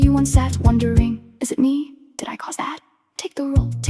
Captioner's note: female voice 1